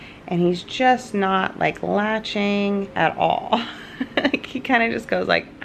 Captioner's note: laughs